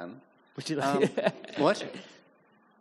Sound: chuckling

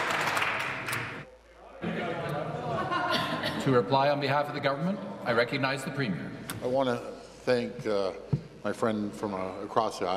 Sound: applause

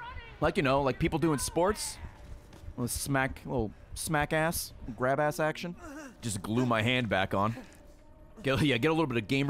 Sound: laughs

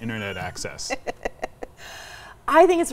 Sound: laughs

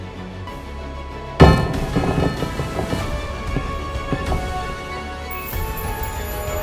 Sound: heavy iron dice rolling; shimmering

